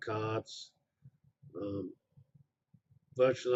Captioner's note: pause